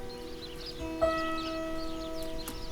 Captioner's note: birdsong